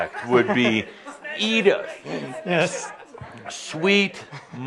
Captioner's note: laughter